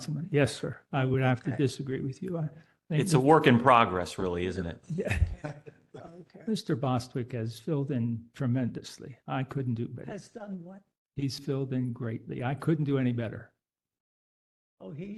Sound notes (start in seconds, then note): 4.9 laugh